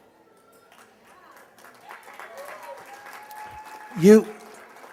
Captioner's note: applause